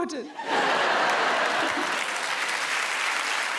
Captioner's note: audience laughs, claps